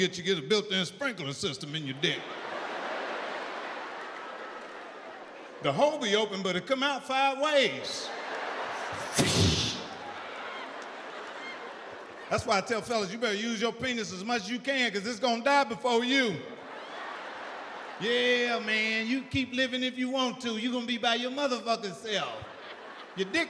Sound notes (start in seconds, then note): 1.5 audience laughs; 8.7 imitates water splashing; 16.5 audience laughs